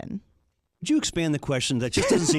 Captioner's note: laughs